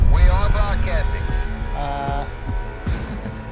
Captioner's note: chuckles